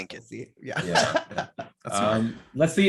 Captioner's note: laughing